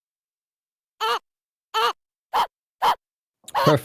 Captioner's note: game grunting noises